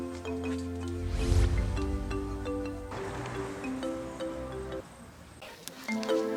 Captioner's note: incantation